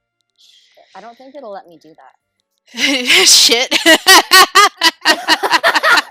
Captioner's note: laughter